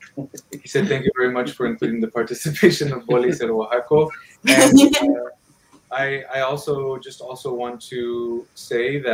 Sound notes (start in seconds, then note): 3.1 speaking in foreign language